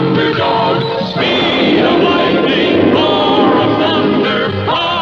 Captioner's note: lighting Strikes